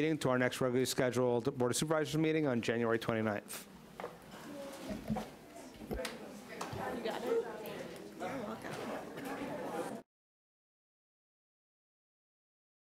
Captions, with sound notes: until our next regularly scheduled Board of Supervisors meeting on January 29th. (group chattering)